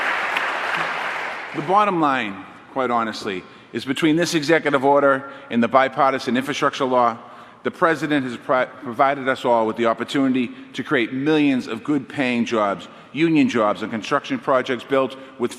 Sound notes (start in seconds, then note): 0.0 applause